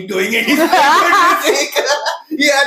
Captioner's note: laughs